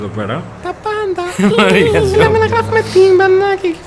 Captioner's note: laughter+mumble; laughter